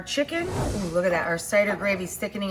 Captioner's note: air whooshing